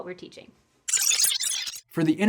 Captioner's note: digital glitch